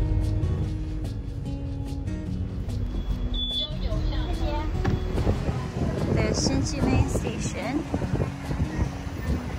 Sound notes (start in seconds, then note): 3.3 foreign language